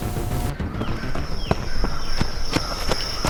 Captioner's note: outdoor noise. running